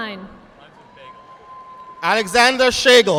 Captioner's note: audience applauding